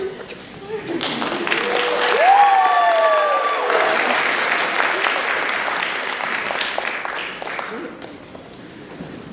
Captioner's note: laughter; applause